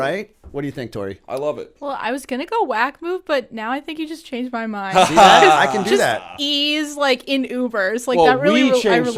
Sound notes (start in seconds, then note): 4.9 laughter